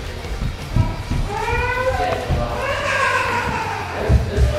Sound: child crying

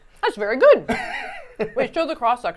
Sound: laughing

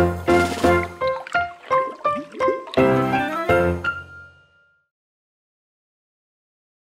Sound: bright music; water burbles

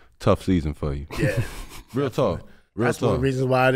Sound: laughs

